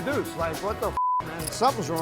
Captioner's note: beep